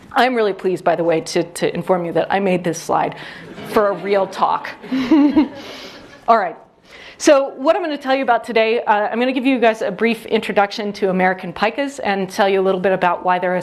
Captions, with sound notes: I'm really pleased, by the way, to inform you that I made this slide for a real talk. [audience laughs] Alright. So what I'm going to tell you about today, I'm going to give you guys a brief introduction to American Pikas and tell you a little bit about why they're